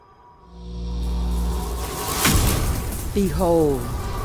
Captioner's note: electric sound